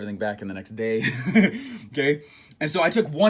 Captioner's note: laughs